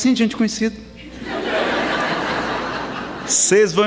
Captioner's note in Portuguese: Gargalhadas